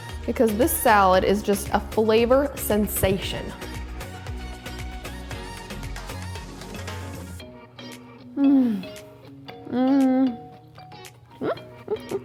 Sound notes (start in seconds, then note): 4.3 upbeat music; 8.6 humming happily